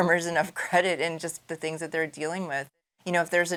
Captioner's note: laughing